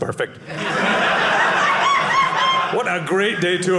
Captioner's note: audience laughing